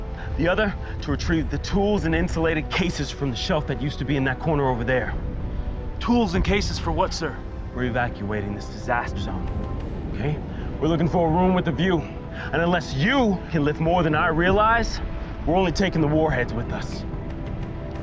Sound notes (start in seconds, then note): none